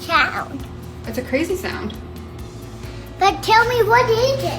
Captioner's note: fan whirring